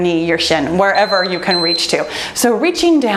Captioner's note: timer beeps